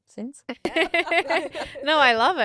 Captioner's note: all laughing